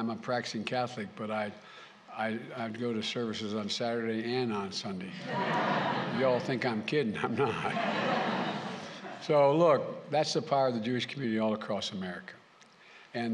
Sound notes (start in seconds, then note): 7.1 laughter